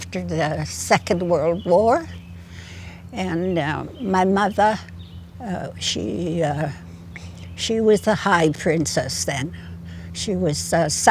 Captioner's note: in Gitxsan